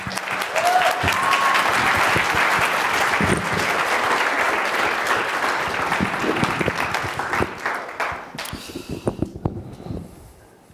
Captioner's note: applause